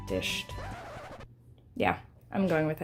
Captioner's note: record scratches